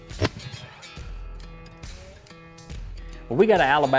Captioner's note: shotgun fires